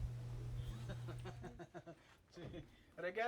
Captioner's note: laughs